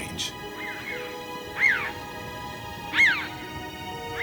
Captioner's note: birds squawking